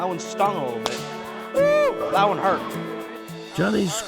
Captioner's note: exclaiming